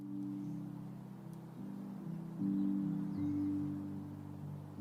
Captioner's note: birds chirping